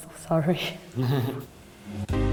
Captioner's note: both laugh